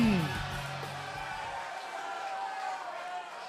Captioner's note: crowd cheering